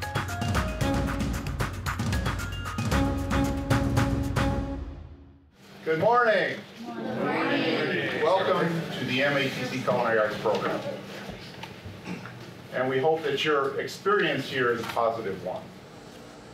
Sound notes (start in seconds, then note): 6.8 crowd